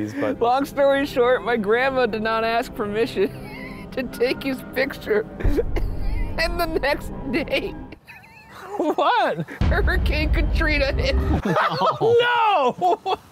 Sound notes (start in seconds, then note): 7.9 laughs; 11.1 laughs